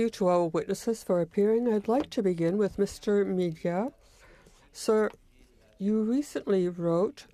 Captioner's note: speaking French